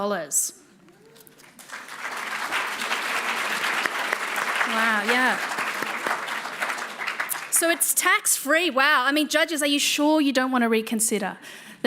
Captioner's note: applause